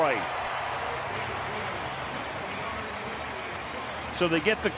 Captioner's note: cheering